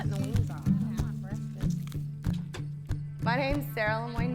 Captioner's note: people chattering; upbeat western music